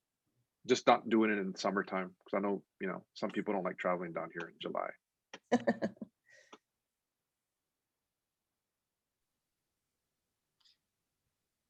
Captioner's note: laughter